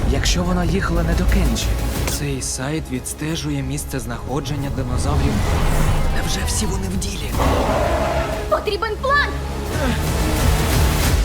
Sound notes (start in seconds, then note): 7.2 roars; 9.9 suspenseful music playing